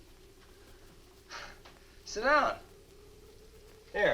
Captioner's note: chuckles